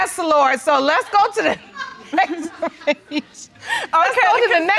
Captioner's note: audience laughs